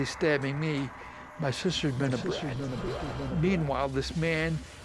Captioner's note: echo